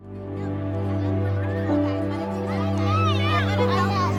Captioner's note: chatter